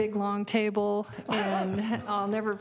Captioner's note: laughter